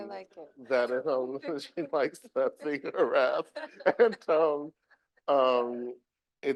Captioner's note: chuckling